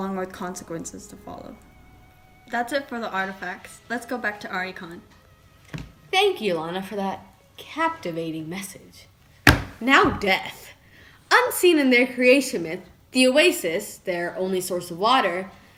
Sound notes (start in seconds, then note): 9.4 slams hands